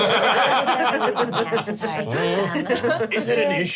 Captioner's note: laugh